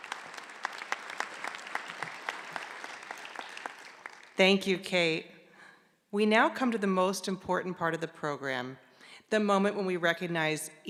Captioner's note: clapping